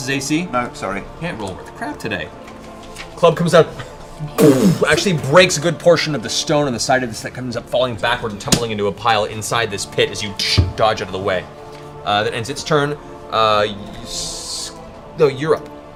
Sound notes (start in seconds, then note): 4.4 impact sound